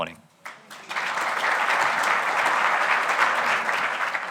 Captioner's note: audience applauding